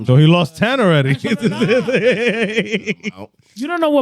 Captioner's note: laughing